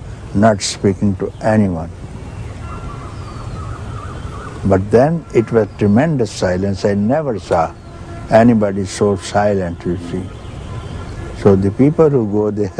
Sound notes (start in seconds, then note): none